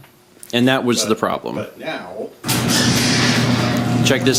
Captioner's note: presses button, garage door noises